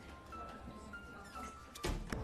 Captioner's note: indistinct conversations in distance; door closes